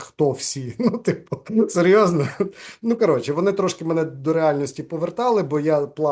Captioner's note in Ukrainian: сміється